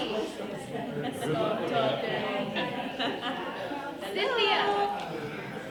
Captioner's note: laughing and chattering